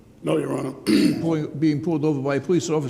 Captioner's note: throat clearing